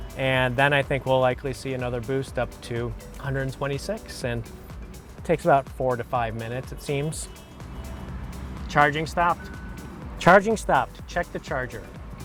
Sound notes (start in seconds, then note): 7.2 car pings